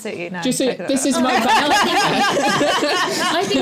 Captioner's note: laughter